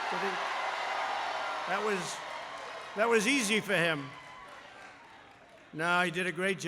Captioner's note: applause